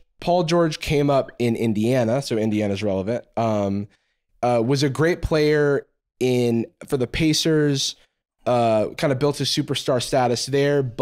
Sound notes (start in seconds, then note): none